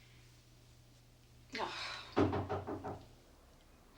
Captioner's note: groans softly; knock on door